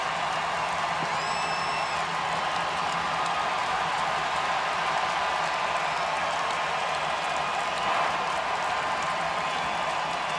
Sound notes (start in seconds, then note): 2.3 cheering; 9.8 cheering and Applause